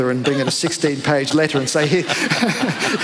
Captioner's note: laughter